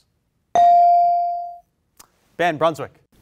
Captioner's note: bell rings